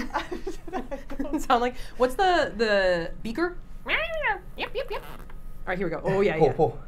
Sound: squeaking

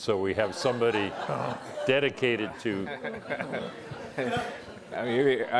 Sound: laughter

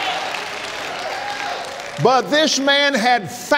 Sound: applauds

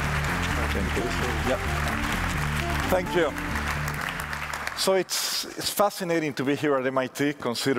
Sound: applause

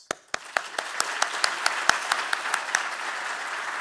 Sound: all applauding

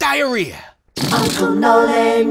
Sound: fart noise

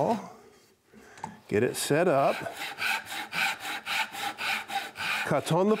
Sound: saw buzzing

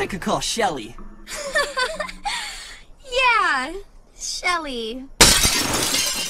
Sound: laughs

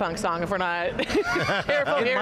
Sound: laughter

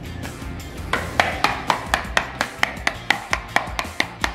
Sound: container tapping

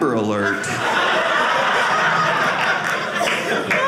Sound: audience laughing

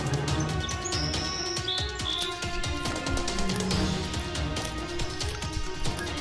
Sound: triceratops munching on plants

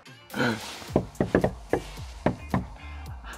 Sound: knock, knock

